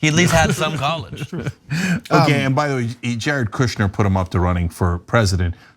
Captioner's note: laugh